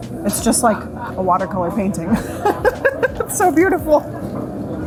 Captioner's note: laughing